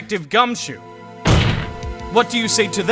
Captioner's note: slam